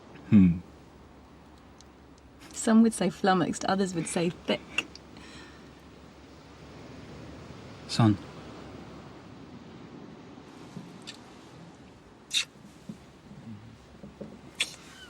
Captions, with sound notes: Erm... Some would say flummoxed others would say thick. Sun? (Kissing)